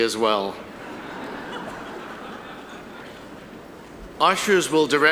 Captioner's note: audience laughing